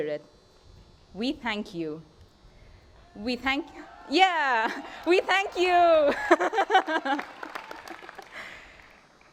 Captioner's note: appluase